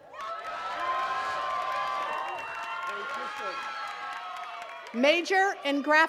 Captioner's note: attendees cheering and clapping